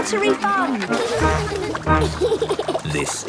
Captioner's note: giggles